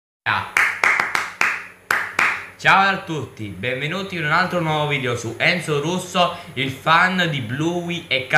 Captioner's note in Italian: Applauso